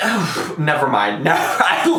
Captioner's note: sighs awkwardly